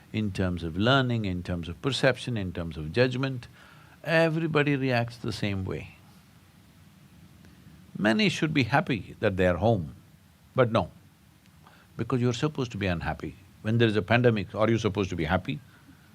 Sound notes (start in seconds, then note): none